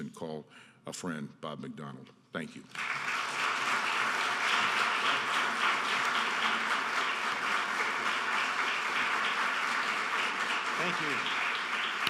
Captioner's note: applause